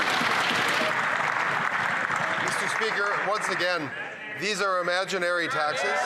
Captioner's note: some Applause